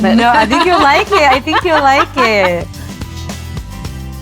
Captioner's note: laughs